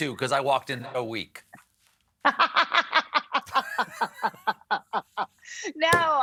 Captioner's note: laughs